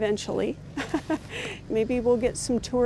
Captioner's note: laughing